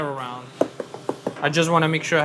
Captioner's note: pizza cutter thudding